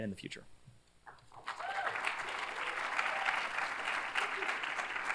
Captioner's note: cheers, applause